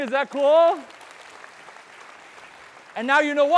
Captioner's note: audience clapping